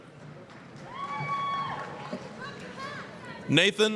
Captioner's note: applause, cheering